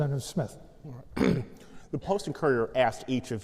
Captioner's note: clears throat